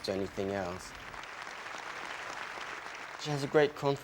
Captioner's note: crowd clapping